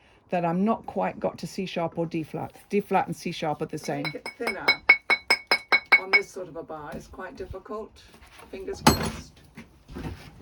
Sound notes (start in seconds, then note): 3.8 continued sound of chisel on rock